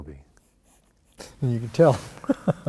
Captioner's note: chuckles